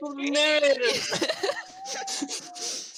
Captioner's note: Harry laughing